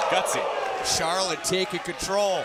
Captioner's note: crowd chatter